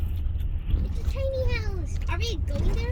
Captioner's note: children in background